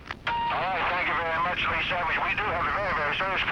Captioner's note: voiceover